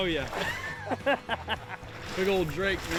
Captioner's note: laughter